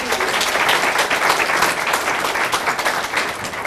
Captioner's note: applause